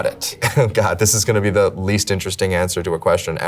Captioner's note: chuckles